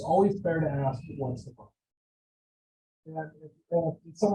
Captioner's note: audio drop